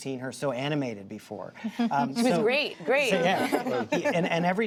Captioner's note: laughter